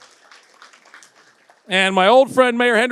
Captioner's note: audience applauds